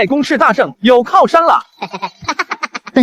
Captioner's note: chuckles